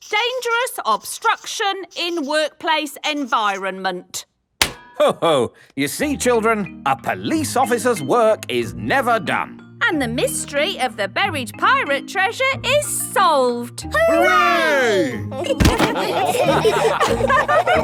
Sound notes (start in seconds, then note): 4.6 slaps